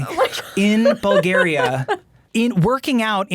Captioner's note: laughing